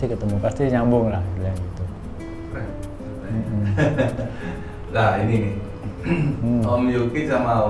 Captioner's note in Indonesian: berdehem